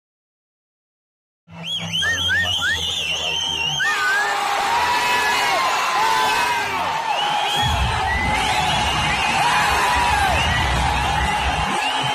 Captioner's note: audience Whistling and Cheering inside theatre